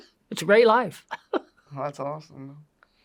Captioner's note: laughs